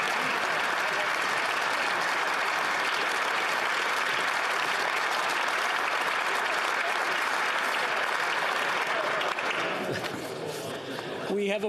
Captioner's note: applause